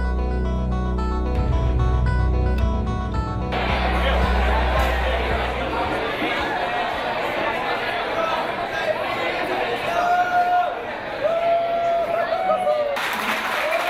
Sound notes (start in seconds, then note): 6.8 people Talking; 11.5 fan Cheering